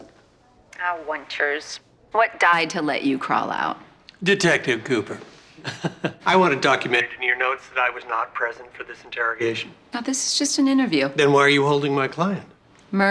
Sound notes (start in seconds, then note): 5.6 chuckling